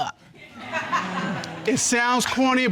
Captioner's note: audience laughs